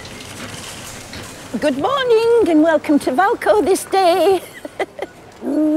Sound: laughs

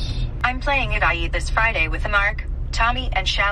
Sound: car

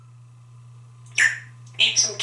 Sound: tweet

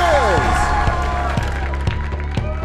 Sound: crashing sound

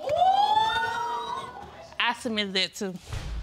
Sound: audience exclaiming

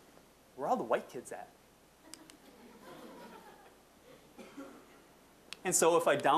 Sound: audience chuckling

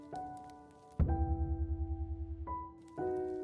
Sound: dramatic boom

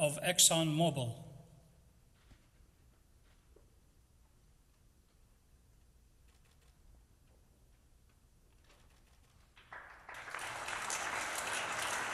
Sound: applause

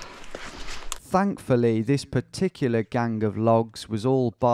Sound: voiceover

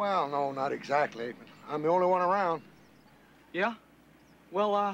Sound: laughs

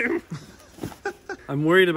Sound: laughs

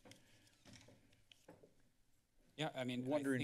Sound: door opens; footsteps

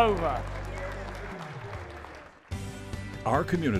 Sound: applause

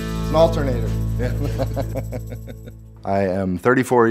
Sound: laughs

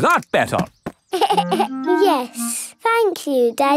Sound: giggles

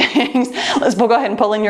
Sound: laughs

